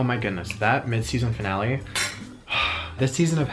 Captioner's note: sighs